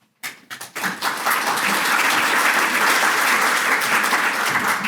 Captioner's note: audience applauds